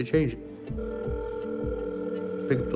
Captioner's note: telephone ringing